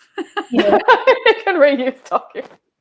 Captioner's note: panelists laughing